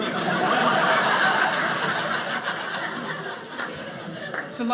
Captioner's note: audience laughing